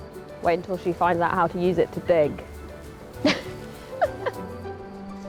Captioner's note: laughing